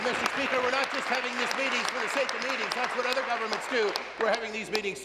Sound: applause

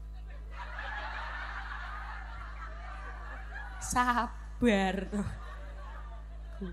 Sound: laughs

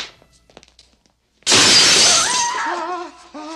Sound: rope snaps; chandelier shattering

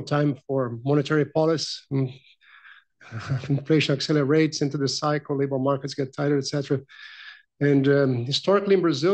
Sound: laughs

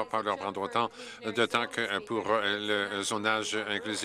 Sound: applause

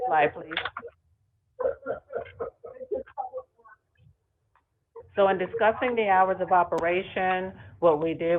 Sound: ~audio distortion~

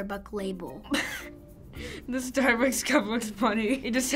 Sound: giggling

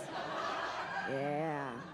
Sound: audience laughs

